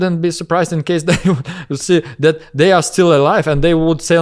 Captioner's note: laughs